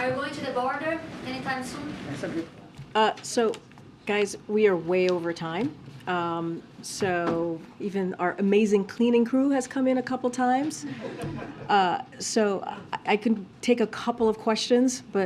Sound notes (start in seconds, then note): 10.8 laughter